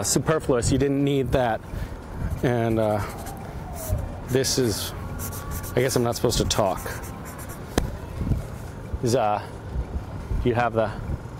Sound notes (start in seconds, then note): 2.7 drawinng sounds; 7.9 drawing soundns